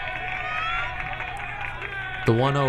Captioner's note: crowd cheering